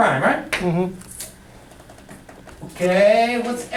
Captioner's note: voiceover